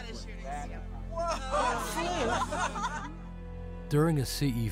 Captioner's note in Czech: všichni se rozesmějí úžasem